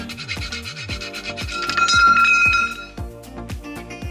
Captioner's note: sound of sawing; sound of intense sawing and then a metal clang